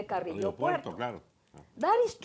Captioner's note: spanish